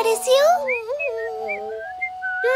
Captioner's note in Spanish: Sonido silbido